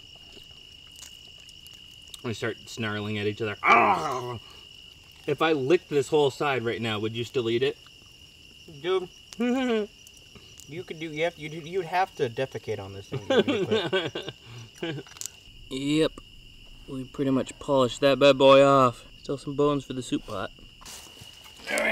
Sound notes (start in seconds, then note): 3.6 growl; 13.1 laughs